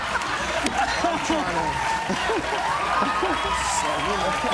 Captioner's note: cheers and applause